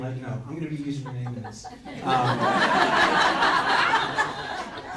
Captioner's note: crowd laughs